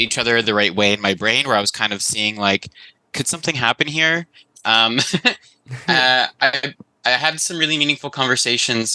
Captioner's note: laughs